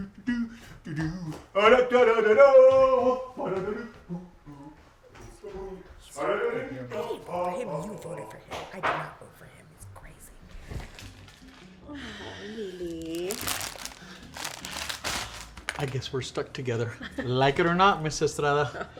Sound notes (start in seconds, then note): 3.9 continues singing; 12.8 plastic crinkles